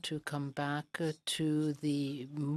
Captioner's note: speaking in French